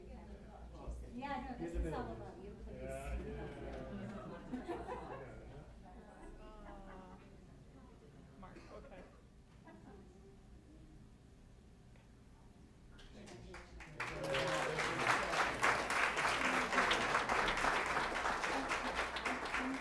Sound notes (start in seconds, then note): 13.1 applause